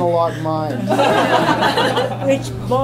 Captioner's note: laughter